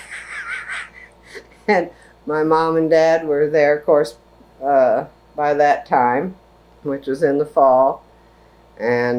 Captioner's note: laughs